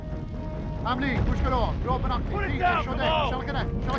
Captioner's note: speaking in foreign language